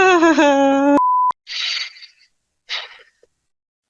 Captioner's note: laughs; inhales